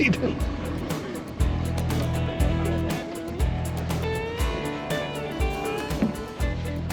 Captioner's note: chuckling